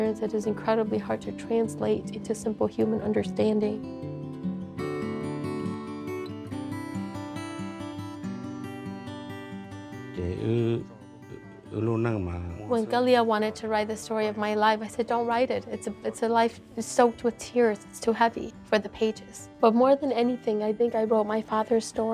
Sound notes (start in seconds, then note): 6.1 calm guitar music; 12.1 speaking in Hmong